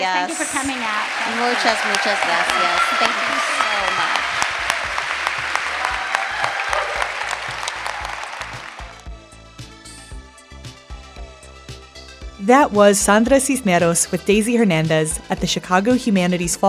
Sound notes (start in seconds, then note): 8.8 audience applause; 9.9 theme music plays